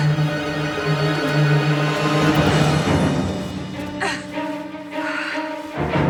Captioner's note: thrilling music; Freddie struggling